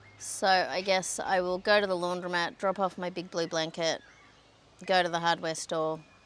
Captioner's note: none